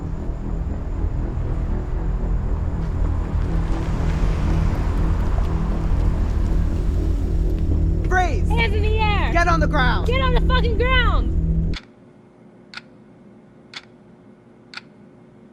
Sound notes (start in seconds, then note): 12.4 clock ticking